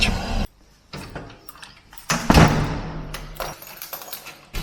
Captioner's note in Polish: zgrzyt zamka